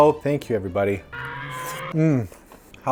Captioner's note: dino screech